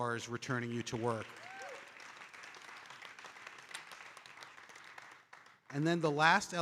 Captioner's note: audience cheering and applauding